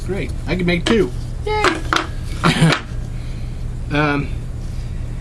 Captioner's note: laugh